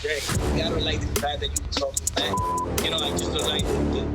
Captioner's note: beep